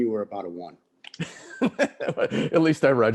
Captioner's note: laughing